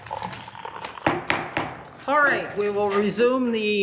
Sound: gavel banging

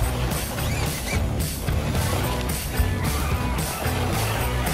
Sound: wheels squealing

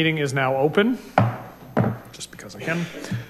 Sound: bangs gravel

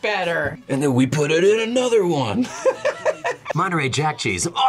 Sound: laughs

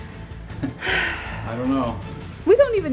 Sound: chuckles

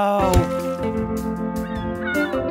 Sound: seagulls cry

